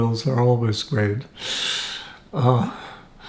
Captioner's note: laughing